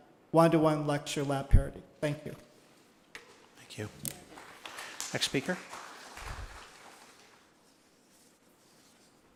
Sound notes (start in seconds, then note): 4.2 applause